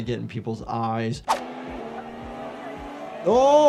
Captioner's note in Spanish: el motor ruge